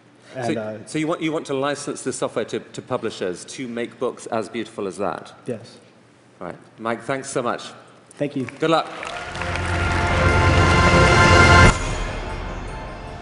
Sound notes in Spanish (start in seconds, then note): 8.3 Aplausos